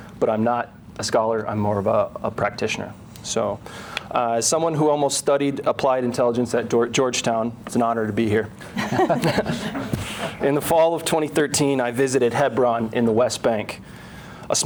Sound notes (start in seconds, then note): 8.7 crowd laughing